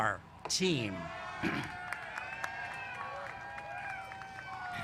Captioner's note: cheers